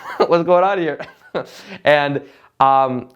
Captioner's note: laughing